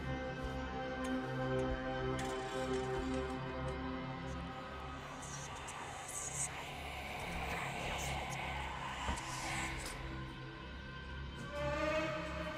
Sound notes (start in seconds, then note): 3.7 whispers